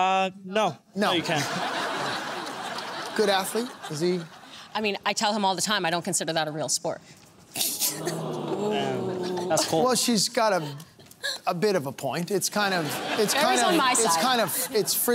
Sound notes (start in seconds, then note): 1.2 laughter; 7.9 crowd "ooohing"